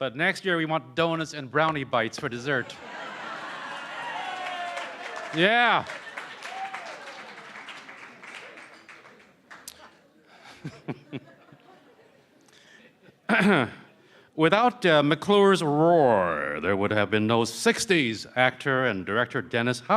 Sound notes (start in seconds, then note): 2.7 laughter & Cheering & Applause; 10.6 cheering & Applause